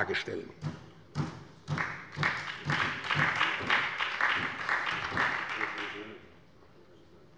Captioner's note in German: Beifall bei der SPD